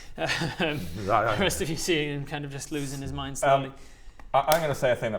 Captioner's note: shudders